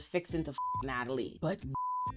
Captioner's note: beep